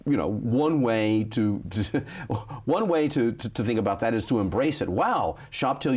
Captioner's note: chuckles